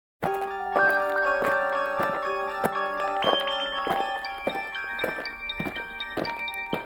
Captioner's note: alien footsteps; eerie music